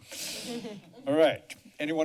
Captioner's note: chuckles